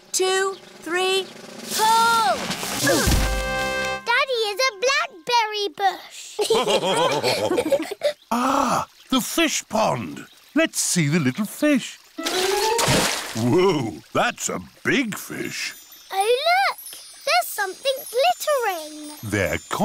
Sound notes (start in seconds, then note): 2.8 all grunt; 6.4 all laughing